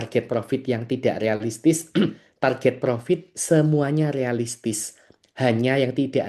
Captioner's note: berdehem